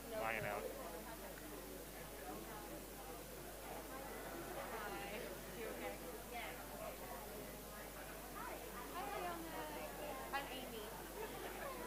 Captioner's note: background chatter